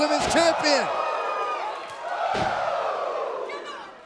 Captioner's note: crowd cheering